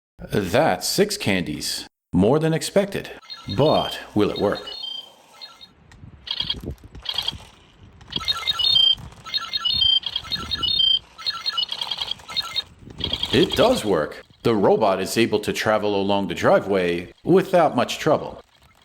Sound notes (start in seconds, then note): 6.4 robot moving!; 8.1 robot chirping!; 11.3 robot moving!